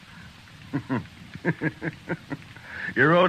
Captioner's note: laughing